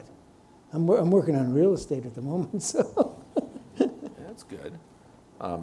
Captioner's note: chuckles